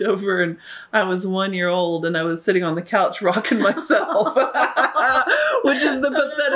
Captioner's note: laughter